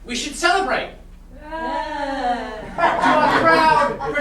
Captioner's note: sailors cheer unenthusiastically